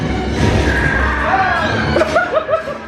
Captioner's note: screaming; laughing